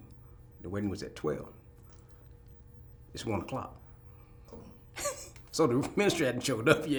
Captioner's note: laughs